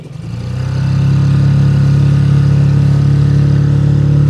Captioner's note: boat revving